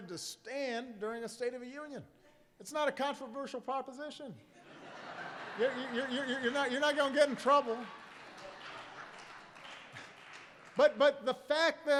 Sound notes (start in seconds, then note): 4.6 laughter; 10.4 applause